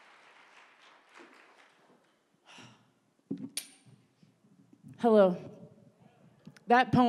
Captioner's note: applause